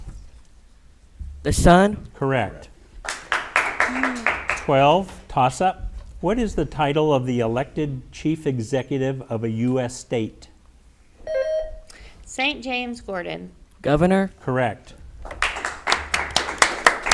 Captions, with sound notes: - The sun. - Correct. (audience applauds) 12, toss-up. What is the title of the elected chief executive of a US state? (bell rings) - St. James, Gordon. - Governor. - Correct. (audience applauds)